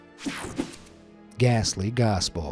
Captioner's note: screen whooshing